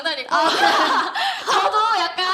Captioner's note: laughter